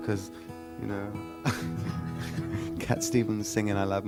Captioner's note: laughs